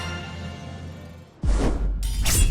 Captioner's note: swoosh; sword slash